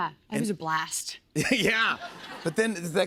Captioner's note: laughter